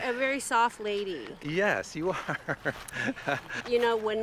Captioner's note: laughs